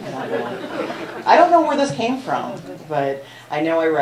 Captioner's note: laughter